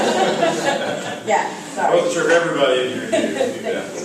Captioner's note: laugh